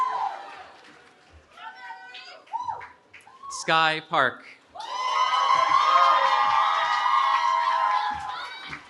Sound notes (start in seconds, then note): 4.7 cheering